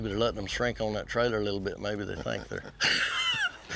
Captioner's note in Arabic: يضحك